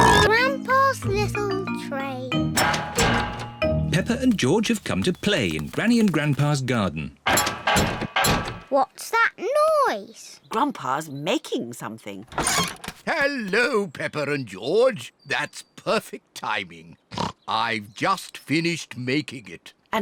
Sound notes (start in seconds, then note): 7.2 clattering and clanging; 17.1 snorts